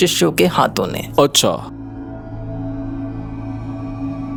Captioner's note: speaking in foreign language